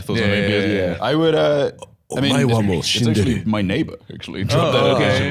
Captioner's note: deep voice